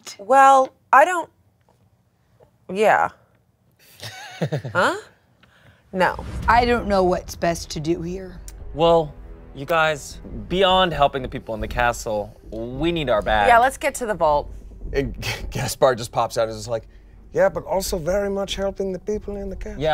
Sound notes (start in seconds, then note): 3.9 laughs